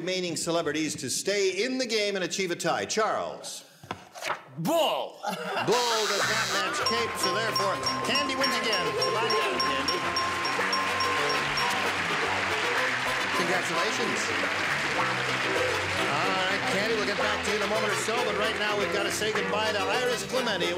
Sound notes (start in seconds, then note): 5.2 buzzer; 10.4 applause